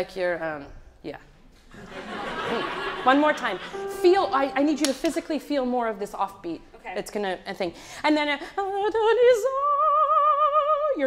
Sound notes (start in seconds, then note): 1.7 audience laughs; 7.6 sings in a foreign language